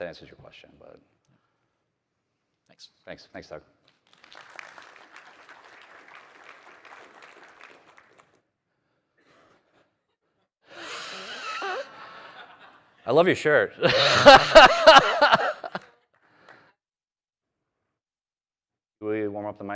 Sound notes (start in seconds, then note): 10.9 applause; 13.8 laughter; 13.8 applause